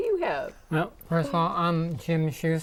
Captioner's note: laughing